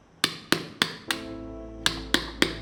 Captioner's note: thudding